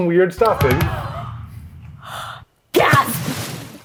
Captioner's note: gasps